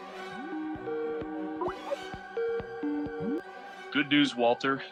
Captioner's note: Skype ringtone playing